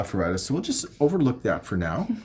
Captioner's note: chuckles